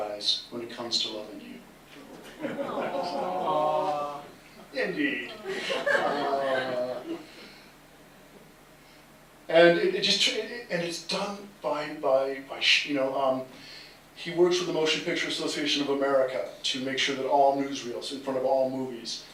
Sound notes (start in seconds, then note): 2.0 laughter and Awws; 5.3 laughter